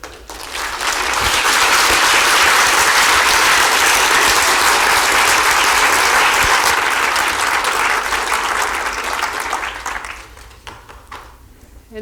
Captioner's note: applause